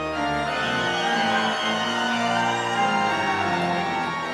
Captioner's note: audience cheering